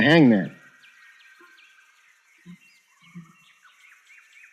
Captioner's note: birds chirping